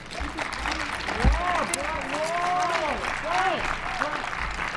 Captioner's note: applause & cheers